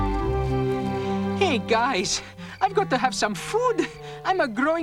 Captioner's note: panting